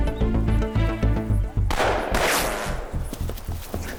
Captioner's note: gunshot